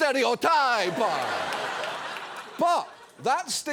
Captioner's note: audience laughs